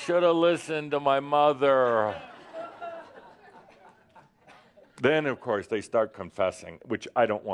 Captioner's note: laughter